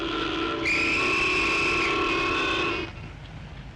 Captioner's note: whistle blows